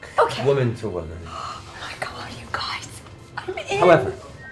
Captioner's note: whispers